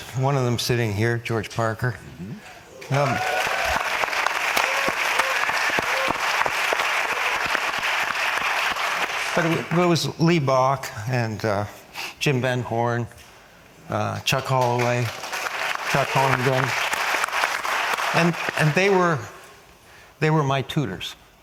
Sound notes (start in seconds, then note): 2.8 audience applause; 4.5 applause; 14.3 applause